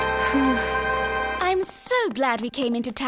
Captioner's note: sighing